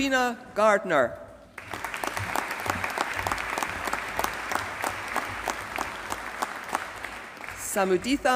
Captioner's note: applause